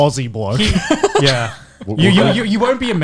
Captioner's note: laughs